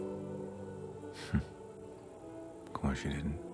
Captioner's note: Jim laughs